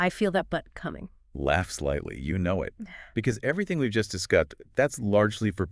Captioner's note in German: Lacht